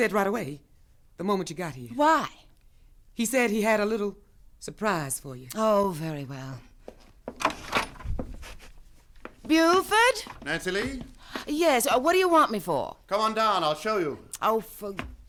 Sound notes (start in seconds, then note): 9.6 footsteps, door opens